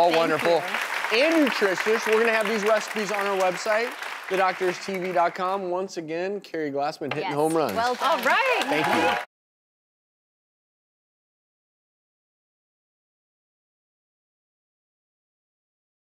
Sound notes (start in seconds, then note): 0.0 applauding; 7.5 applauding